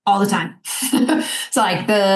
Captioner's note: chuckling